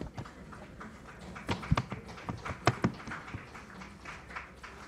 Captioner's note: applause